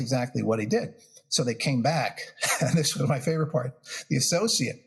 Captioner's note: laugh